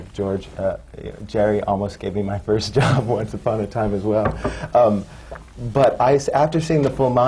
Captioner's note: laughs